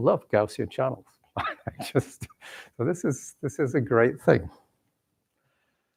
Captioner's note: chuckles